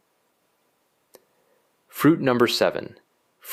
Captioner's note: pause